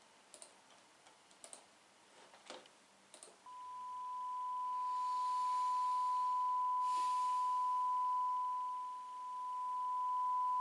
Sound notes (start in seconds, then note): 3.5 sustained high-pitched tone; 8.3 tone undulates in volume